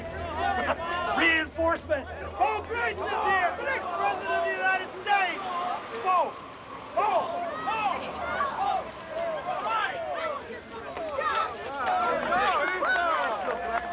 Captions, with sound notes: REINFORCEMENTS. BO GRITZ IS HERE! THE NEXT PRESIDENT OF THE UNITED STATES! [people shouting] BO, BO! [people cheering]